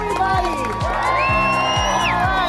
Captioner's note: crowd cheers